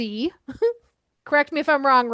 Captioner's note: laughing